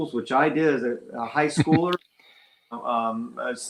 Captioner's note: chuckles